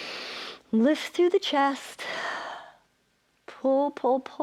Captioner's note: inhales; exhales